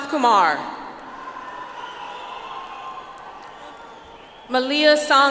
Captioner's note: audience applauds